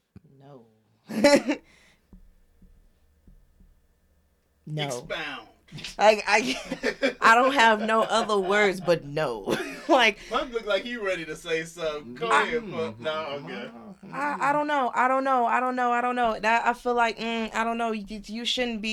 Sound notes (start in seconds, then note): 2.7 laughs